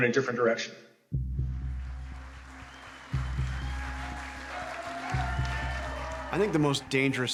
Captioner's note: cheers and applause